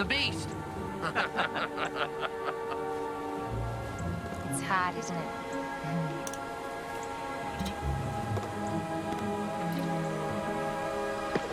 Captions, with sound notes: - The beast. (laughing) - It's hot, isn't it? (uncorking flask) Mmmm.